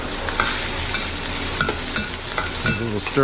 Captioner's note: food sizzling